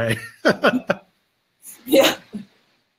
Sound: laughing

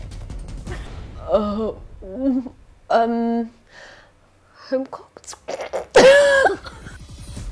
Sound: laughs

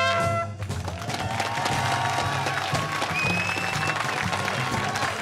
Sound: cheers and applause

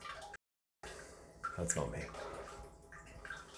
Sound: sound of water dripping

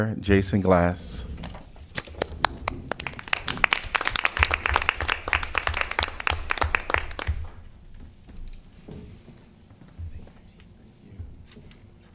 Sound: applause

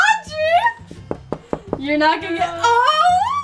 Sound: knocking

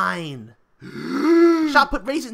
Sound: big inhale

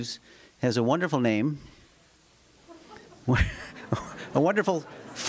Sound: laughter

